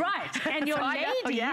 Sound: laughter

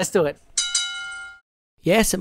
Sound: bell dinging

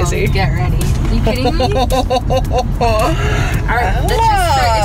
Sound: laughing

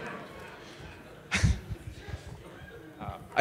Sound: audience laughing; laughing

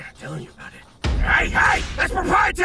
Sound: dramatic thump; whip cracks

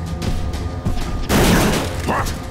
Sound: thudding

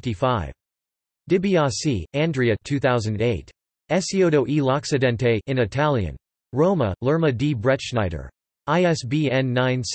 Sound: in Italian

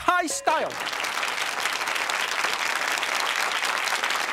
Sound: audience applause

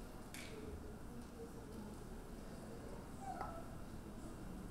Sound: audience chattering

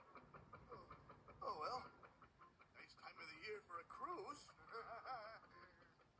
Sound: sadly laughs

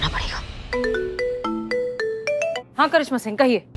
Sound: phone ringing

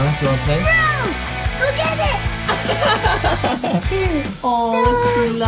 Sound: laughs

